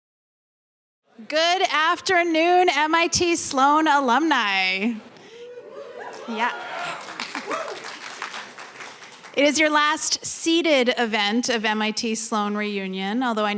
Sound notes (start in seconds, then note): 5.5 cheering; 6.4 applause